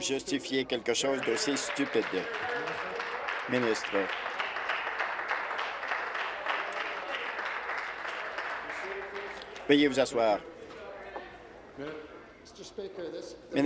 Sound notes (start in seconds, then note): 5.3 applause